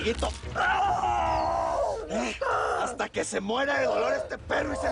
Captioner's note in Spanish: Quejidos